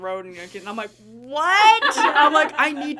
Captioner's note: everyone laughing